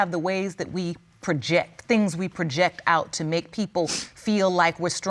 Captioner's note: sniffles